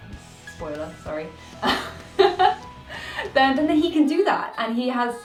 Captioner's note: laughs